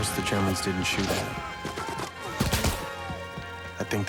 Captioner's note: men screaming; gunshots, explosions